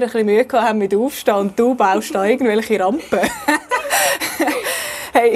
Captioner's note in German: lachen